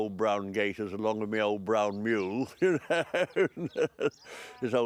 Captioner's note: laughs